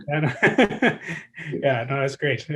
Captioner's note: laughs